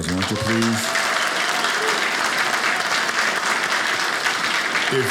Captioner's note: audience applauding